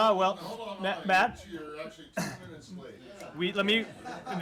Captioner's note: laughter